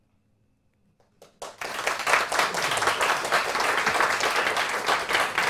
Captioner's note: applause